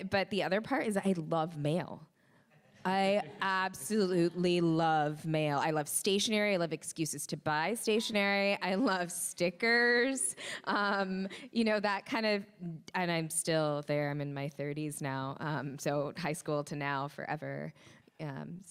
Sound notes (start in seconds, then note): 2.8 crowd laughs